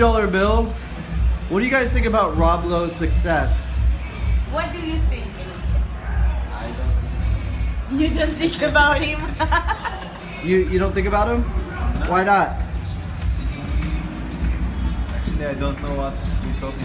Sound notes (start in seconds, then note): 6.6 laughter